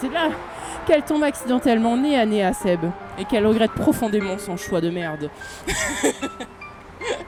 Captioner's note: laughing